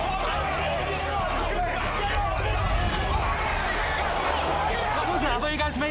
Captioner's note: crowd chatter